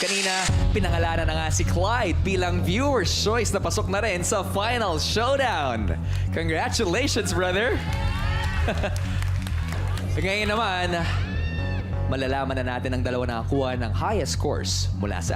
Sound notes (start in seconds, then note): 8.9 chuckles